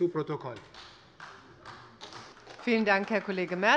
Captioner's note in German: Beifall bei Abgeordneten der SPD